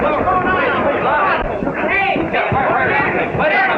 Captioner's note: shouting